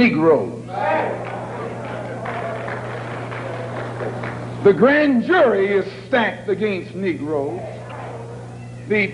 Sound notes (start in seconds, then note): 0.7 cheers and applause